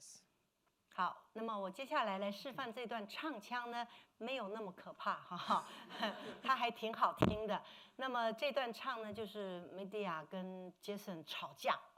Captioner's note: speaking Mandarin